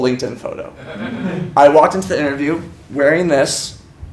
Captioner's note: laugh